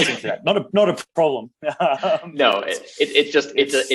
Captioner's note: laughs